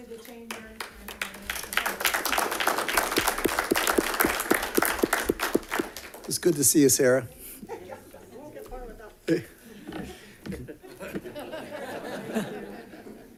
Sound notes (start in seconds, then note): 2.2 audience clapping; 9.3 all softly laughing